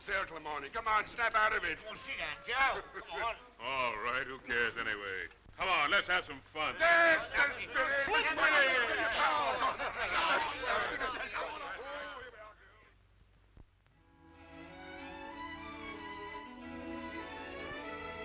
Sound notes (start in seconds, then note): 6.8 men cheering; 14.0 gentle sentimental music